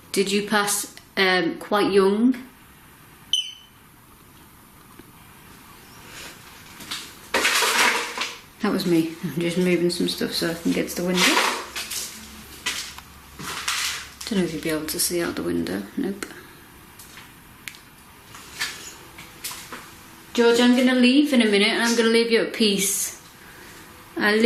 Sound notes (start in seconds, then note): 3.3 beep; 7.4 squeaking